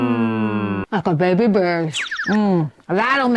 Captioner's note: chirping